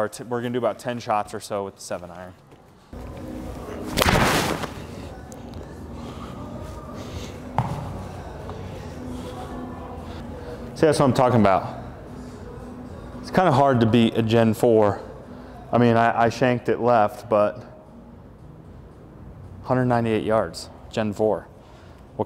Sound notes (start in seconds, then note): 4.0 ball hitting screen